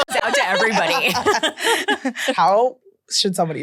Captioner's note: everyone laughs